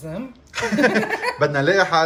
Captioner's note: laughter